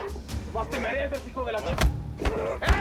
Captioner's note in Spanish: Golpes